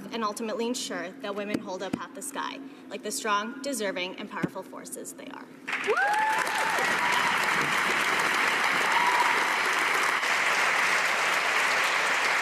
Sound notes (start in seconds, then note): 9.8 cheers and applause